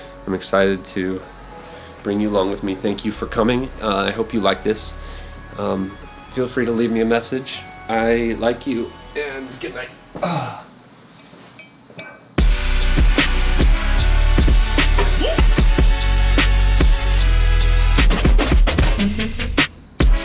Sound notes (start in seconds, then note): 10.2 sighs; 12.4 upbeat music